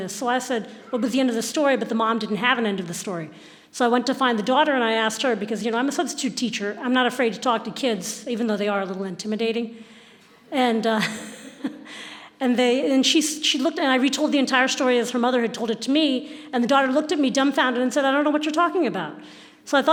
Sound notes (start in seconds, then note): 11.1 laughing